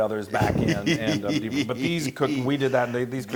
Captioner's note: laugh